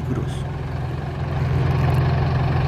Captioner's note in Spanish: sonido ambiente del bus